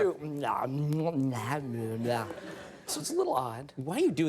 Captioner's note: imitates sloppy mouth sounds